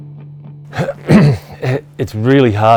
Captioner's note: clears throat